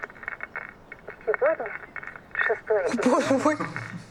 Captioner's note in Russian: звучит запись голоса